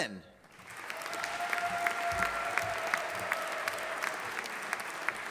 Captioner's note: audience applauding